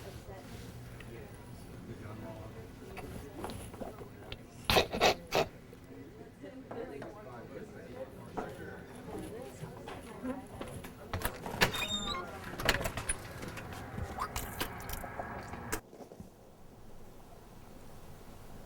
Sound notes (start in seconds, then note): 4.7 Cole coughing; 14.1 Cole spitting